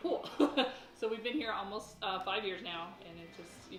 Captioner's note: laughing